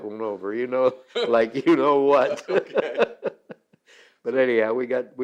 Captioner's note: both laugh